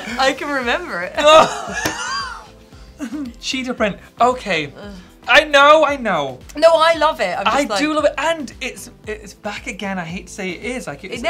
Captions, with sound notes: - I can remember it. (both laughing) - Cheetah print, okay I know, I know. - No, I love it, I'm just like - - I do love it, and it's back again, I hate to say it is, for men's wear.